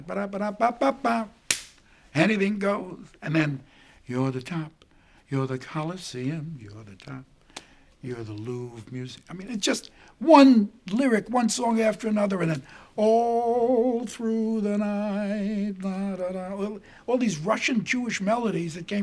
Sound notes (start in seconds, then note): 1.5 hands tapping